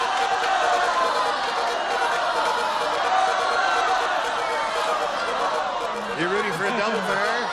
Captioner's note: beeping; audience clamoring